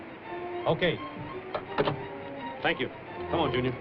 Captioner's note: phone receiver lands on hook